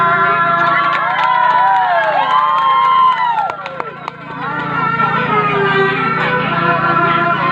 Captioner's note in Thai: ปรบมือ